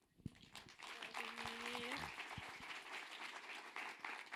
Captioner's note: audience applauding